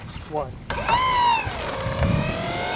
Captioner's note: whirring sound